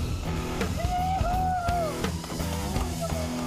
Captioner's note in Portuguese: grita